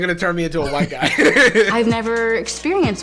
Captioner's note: laughing